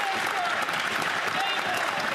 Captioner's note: some Applause